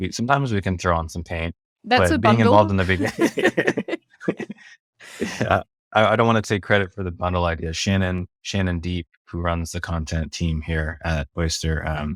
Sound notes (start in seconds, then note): 3.9 both laugh